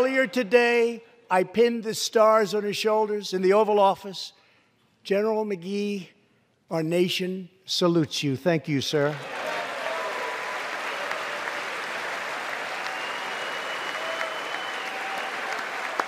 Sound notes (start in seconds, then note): 8.8 applause